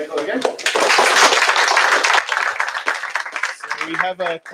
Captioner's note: applause